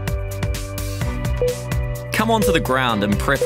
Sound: timer beeping

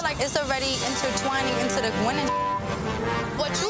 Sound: beep

